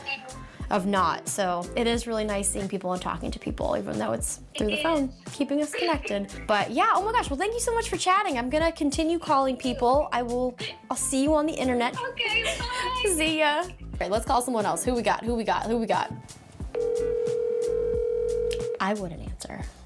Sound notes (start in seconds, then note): 16.7 phone ringing